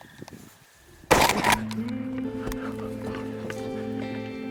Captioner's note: gun firing